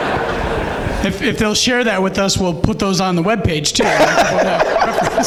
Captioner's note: laughs